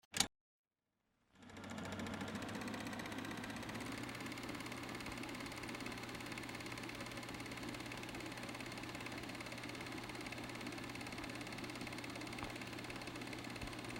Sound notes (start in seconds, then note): 1.4 film running